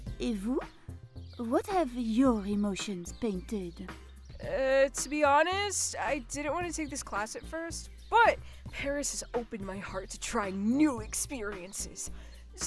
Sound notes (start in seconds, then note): 0.6 speaking in French